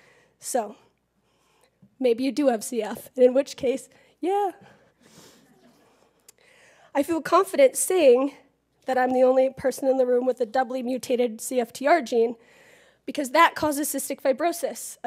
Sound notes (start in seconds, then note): 4.7 laugh